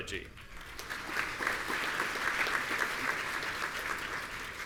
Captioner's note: audience applauding